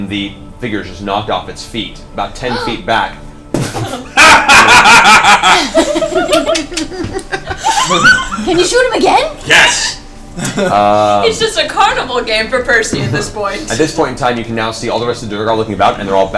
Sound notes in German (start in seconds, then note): 3.6 Gelächter